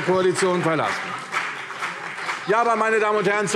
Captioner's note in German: Beifall CDU und BÜNDNIS 90/DIE GRÜNEN